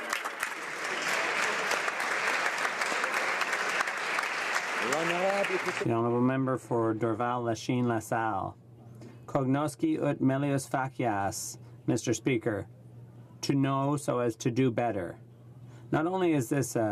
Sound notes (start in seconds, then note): 2.8 some Applause